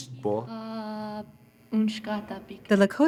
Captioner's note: speaking Lakota